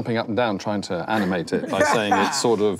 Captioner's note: laughing